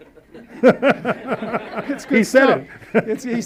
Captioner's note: audience laughs